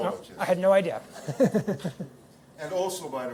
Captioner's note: laughter